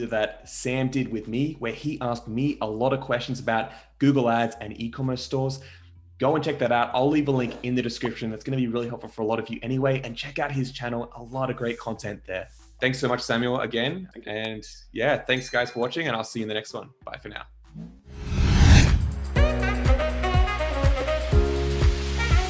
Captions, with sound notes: that Sam did with me, where he asked me a lot of questions about Google ads and e-commerce stores, go and check that out, I'll leave a link in the description. That's gonna be really helpful for a lot of you anyway and check out his channel. A lot of great content there. Thanks so much Samuel again and yeah. Thanks guys for watching. (bell sound) And I'll see you in the next one. Bye for now. (saxophone music)